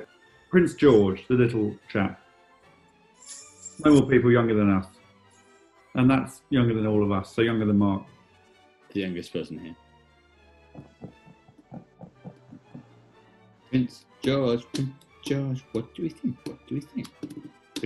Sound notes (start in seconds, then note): 10.7 tapping rhythmically